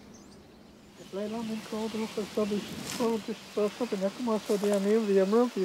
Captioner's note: chanting in Hebrew